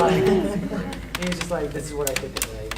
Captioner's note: panel chattering; rustling drowns out speaker